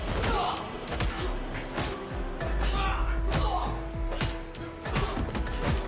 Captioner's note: Irina speaking in a foreign language; people groaning; blows thudding